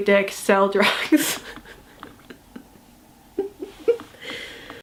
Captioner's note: laughs